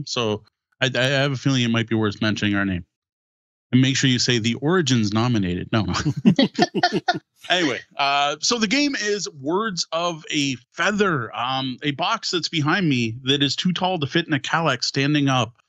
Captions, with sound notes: So I have a feeling it might be worth mentioning our name. And make sure you say the origins nominated, no. (laughing) Anyway, so the game is words of a feather, a box that's behind me that is too tall to fit in a cowlick standing up.